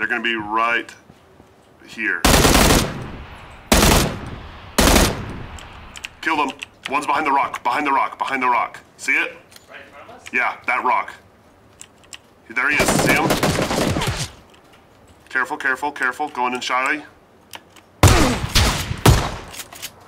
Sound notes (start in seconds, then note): 2.3 machine gun firing; 12.7 machine gun firing; 18.0 gunshots